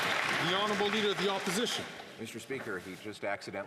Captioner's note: some Applause